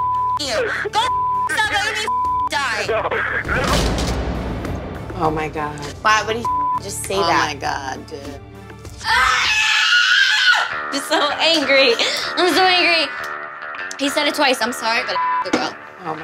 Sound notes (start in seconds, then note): 2.8 laughs; 9.0 shrieking; 13.4 clapping